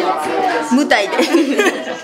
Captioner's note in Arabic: ضحك